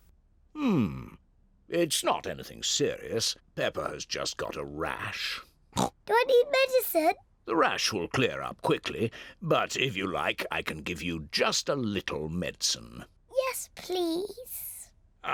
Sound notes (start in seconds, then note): 5.7 oinks